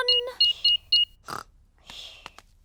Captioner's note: beeping